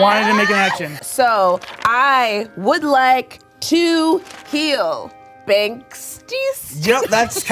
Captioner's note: laughing